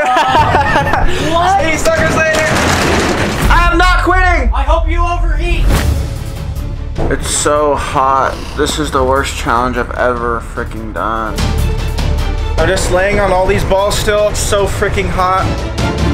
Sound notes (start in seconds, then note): 0.0 all laughing; 3.1 door rattles; 6.0 suspenseful music; 11.4 suspenseful music; 15.9 suspenseful music